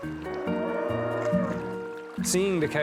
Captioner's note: cows moo